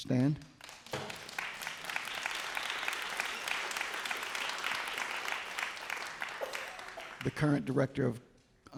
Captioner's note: applause